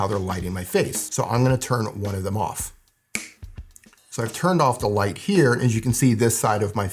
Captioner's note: snaps finger